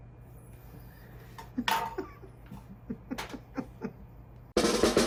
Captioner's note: laughs